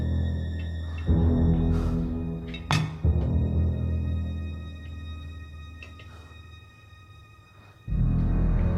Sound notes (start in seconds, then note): 2.5 lamp thuds